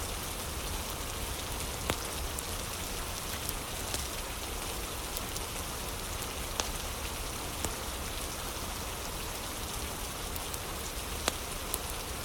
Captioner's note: fire crackling